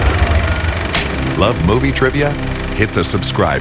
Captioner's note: film projector whirring; marker snaps